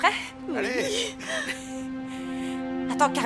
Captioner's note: chuckling